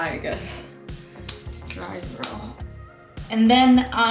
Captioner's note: slaps